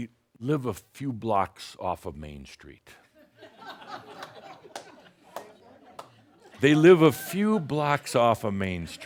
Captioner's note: some chuckles